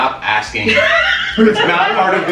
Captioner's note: laughter